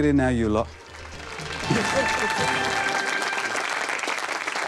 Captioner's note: audience applauds